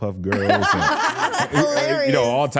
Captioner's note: laughs